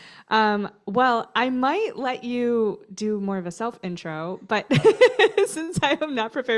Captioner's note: laughter